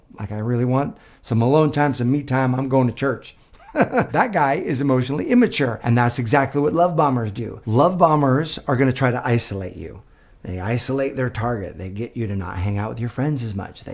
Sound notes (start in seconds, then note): 3.6 laughs